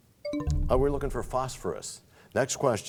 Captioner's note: bell chimes, time expires